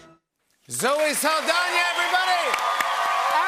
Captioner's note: cheers and applause